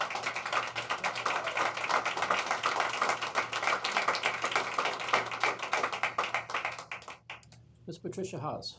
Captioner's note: applause